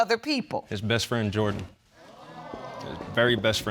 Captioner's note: audience exclaiming